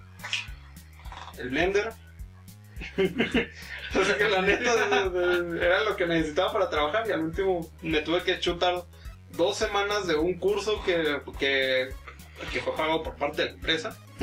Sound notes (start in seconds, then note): 2.8 laughs